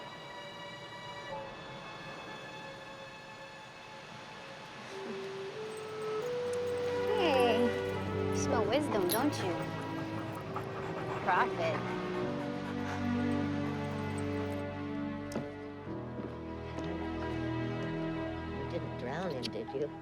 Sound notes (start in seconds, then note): 4.8 chuckles; 11.9 laughs